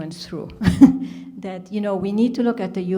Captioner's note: chuckles